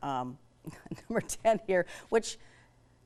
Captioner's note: laughs